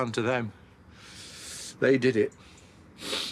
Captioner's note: he sighs; he inhales